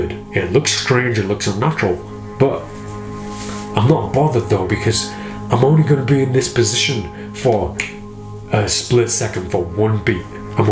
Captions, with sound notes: It looks strange, it looks unnatural. But I'm not bothered, though, because I'm only gonna be in this position for (snaps fingers) a split second. For one beat.